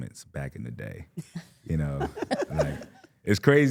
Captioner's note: Stephanie and participant chuckling